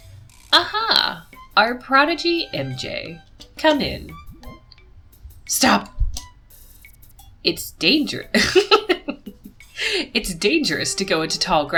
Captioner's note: laughs